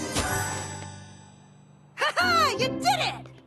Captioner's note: tinkling; ding!